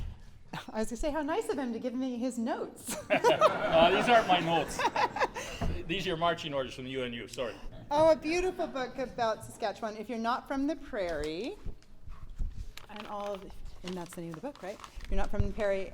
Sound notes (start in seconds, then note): 2.8 laughter